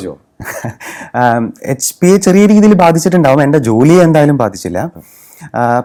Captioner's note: laughs